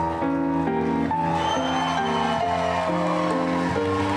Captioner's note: cheering